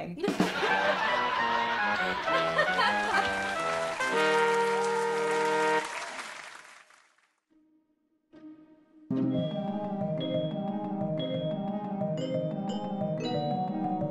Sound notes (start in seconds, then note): 0.2 laughter; 2.7 audience Applause